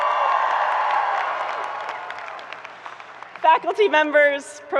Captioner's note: people cheering